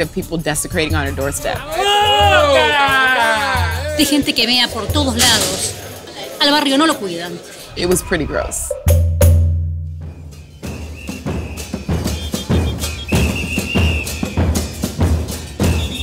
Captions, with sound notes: of people desecrating on her doorstep. (fans cheering belligerently in Spanish) Nobody takes care of the neighbourhood People pee all around. - It was pretty gross. (upbeat marching band music)